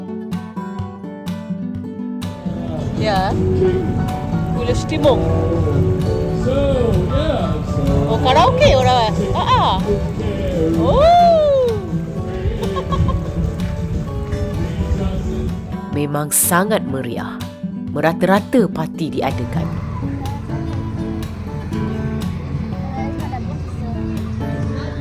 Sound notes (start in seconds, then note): 0.1 background music; 2.7 speaking German; 12.6 laugh; 20.8 background music; 24.7 laugh; 24.7 speaking German